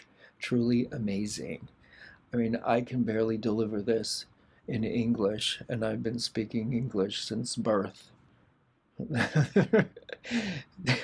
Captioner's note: laughter